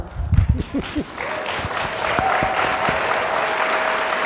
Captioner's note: applause